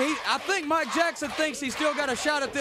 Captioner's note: crowd chatter